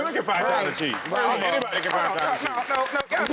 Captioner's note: scattered applause